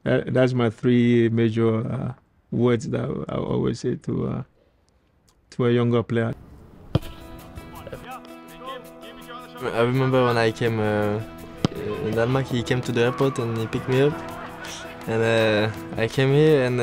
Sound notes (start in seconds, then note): 7.1 bright music; 7.6 coach chatting